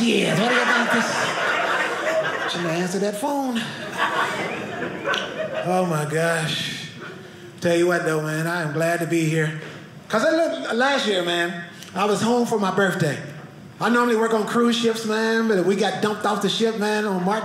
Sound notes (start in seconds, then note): 4.6 audience laughing